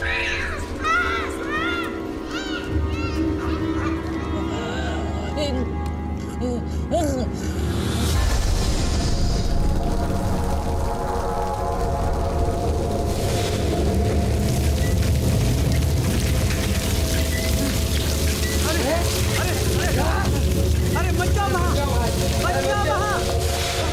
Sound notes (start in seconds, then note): 0.2 people crying and in pain; 4.8 moaning